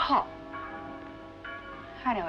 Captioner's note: church Bells